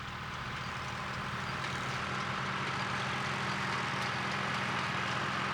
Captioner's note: tractor sounds